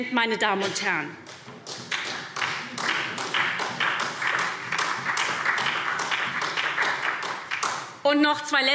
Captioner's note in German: Beifall SPD